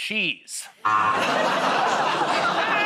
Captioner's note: buzzer; laughs